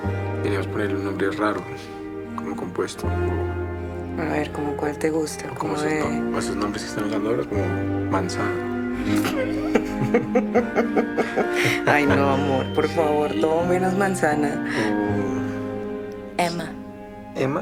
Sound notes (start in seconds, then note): 9.0 both laugh